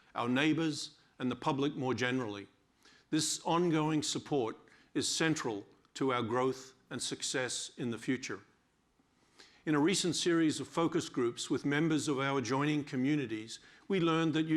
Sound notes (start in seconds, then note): none